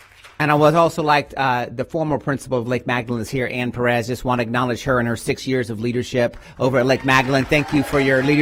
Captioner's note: applause